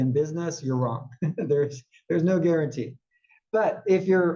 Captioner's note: laugh